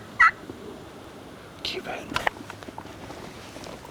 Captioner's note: whispering